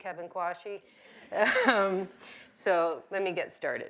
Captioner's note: chuckles